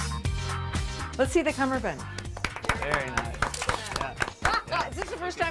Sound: applause

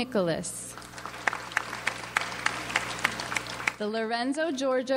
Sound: audience applauds

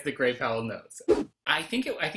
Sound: whoosh

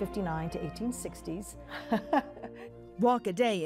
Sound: laughing

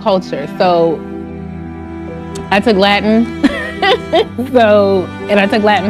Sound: laughs

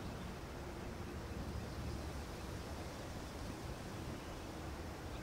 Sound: birds chirping

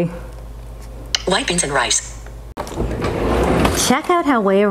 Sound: computerized Voice

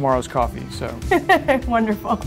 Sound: laughs

